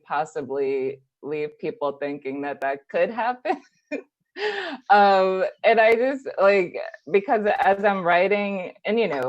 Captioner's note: laughs